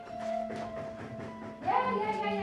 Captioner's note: loud knocking